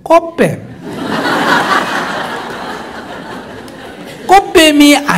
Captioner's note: audience Laughter